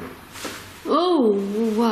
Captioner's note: tapping